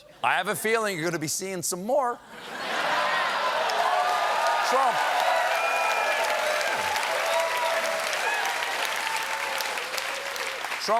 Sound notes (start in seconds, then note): 2.3 laughter; 2.8 cheers and applause